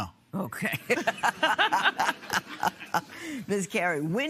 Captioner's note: both laugh